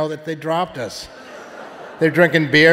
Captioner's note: audience laughing